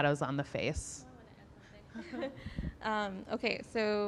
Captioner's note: laughing